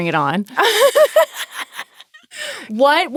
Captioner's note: laughing